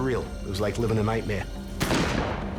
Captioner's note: gun shots